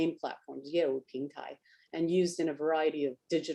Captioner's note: speaks Chinese